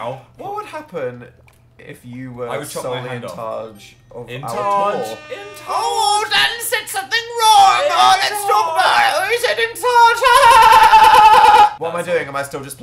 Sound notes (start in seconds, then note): 4.5 air horn noise; 4.5 mocking